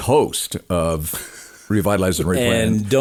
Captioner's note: laughing